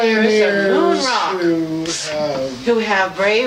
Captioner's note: muffled yelling